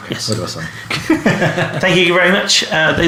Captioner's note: laughing